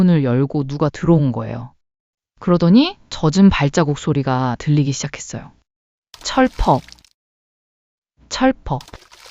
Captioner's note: splat, splat, splat